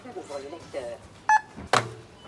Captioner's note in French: bip